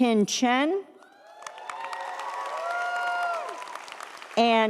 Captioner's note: audience cheers; audience applauds